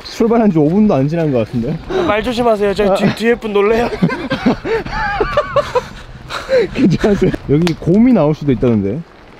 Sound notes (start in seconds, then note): 5.6 panting